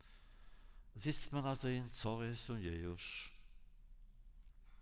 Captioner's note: Yiddish